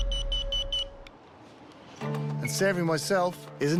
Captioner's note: beeping stops